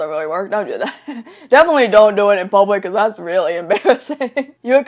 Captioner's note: laughs; laughs